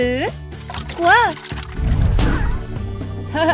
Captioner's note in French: boum